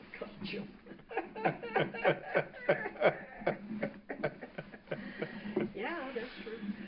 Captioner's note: laugher